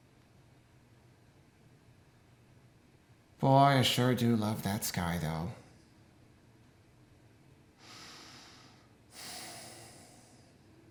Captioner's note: sigh